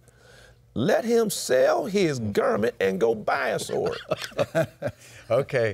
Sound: laughs

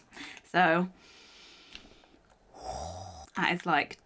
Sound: inhales and exhales

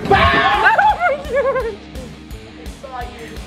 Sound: screaming; giggling

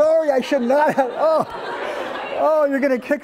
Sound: laughter

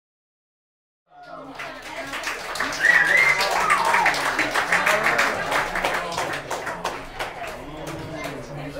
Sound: applause

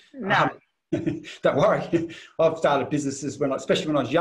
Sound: laughs

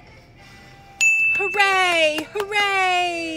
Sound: ding

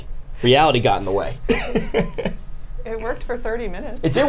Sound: laughs

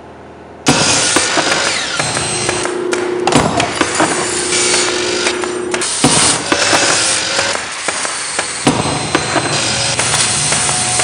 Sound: sound of workshop

